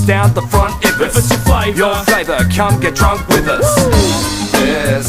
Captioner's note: woo